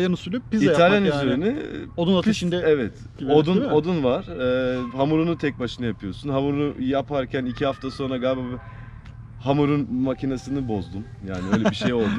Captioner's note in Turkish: Gülerek